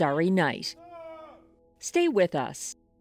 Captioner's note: yells